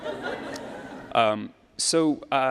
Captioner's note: audience laughs